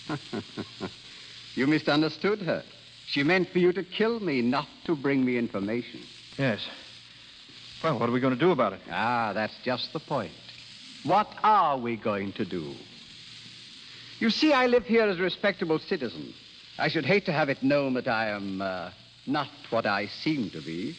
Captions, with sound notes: (Chuckles) You misunderstood her. She meant for you to kill me, not to bring me information. Yes. Well, what are we going to do about it? Ah, that's just the point. What are we going to do? You see, I live here as a respectable citizen. I should hate to have it known that I am, uh, not what I seem to be.